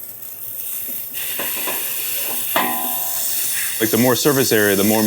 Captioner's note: meat sizzles